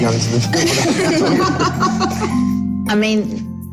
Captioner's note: laughter